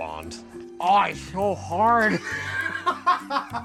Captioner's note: laughs